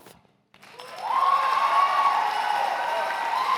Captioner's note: cheers and applause